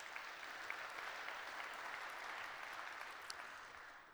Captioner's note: applause